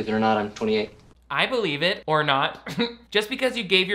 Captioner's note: laughs